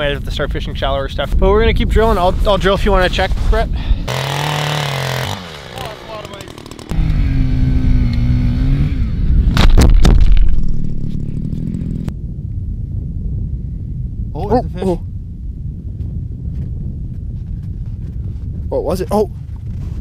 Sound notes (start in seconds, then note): 4.0 drill whirring; 9.5 camera falling